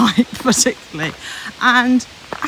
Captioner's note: laughs